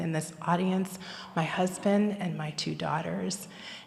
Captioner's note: none